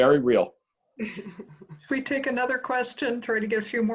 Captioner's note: laugh